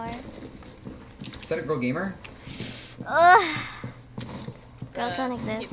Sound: sharp inhale and groan of pain

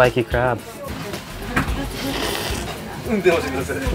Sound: slurps

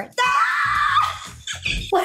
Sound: screaming; squealing

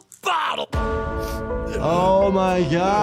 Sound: church bell rings

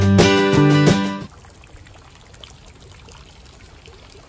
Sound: sound of water fountain running

